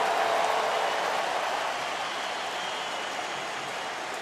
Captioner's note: cheering